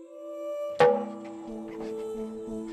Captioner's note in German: Ruhige Klänge, Klopfen